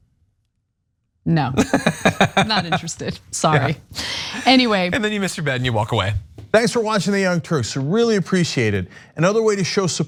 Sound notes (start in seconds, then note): 1.6 laugh